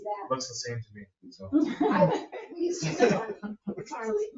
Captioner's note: group laughing